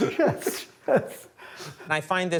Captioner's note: both laugh